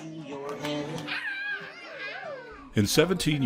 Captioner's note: children vocalizing